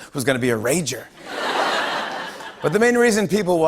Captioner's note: laughter